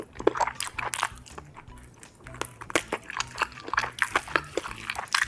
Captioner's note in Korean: 세상 진지하게 오돌뼈 뿌수는 중